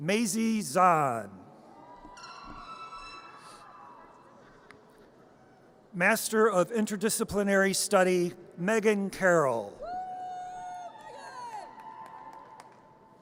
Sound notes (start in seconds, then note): 2.0 audience cheers; 11.0 audience cheers